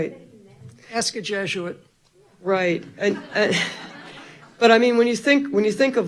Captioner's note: all laughing